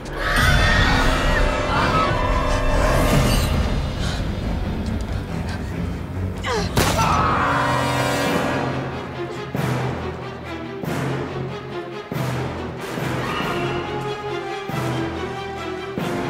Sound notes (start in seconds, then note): 0.0 ghost screaming; 6.5 screams